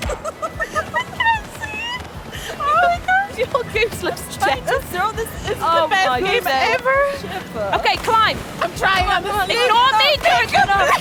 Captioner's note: laughter